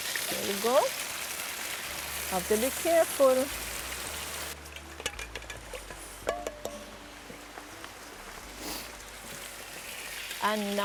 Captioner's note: utensils clanking; sizzling